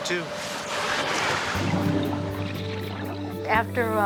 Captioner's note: water splashing; pat